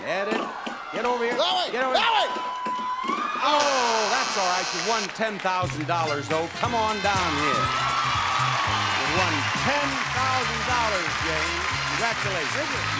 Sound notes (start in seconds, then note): 8.3 audience cheers